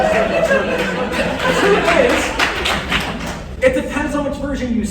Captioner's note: laughter; applause